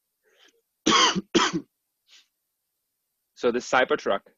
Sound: coughs

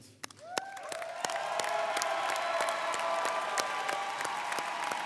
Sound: audience applauding

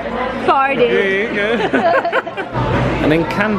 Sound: laughing; chuckling

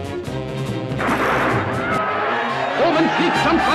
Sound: race gun blasts; commentator speaking in foreign language

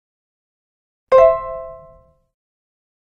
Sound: sound of chime

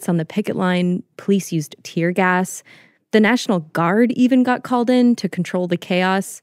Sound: none

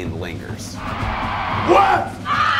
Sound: tires screeching

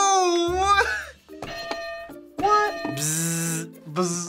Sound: hitting bell

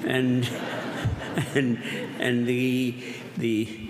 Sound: laughter

